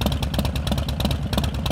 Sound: engine idles

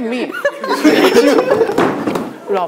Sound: cracking up at "look at you"

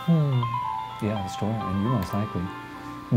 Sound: none

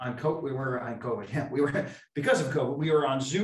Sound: laughs

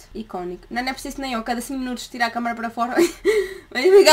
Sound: laughter

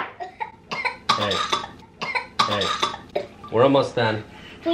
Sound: coughs

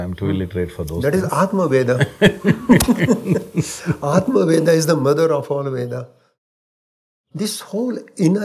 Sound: both laugh

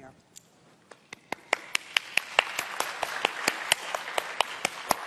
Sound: applause

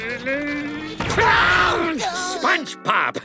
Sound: screaming

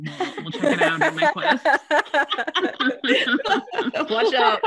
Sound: laughs

